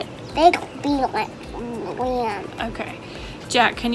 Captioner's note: mummers